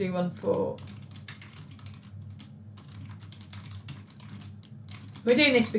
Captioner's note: keyboard clicks